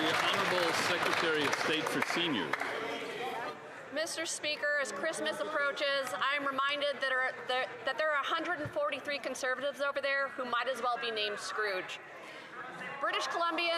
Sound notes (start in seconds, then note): 3.4 some Applause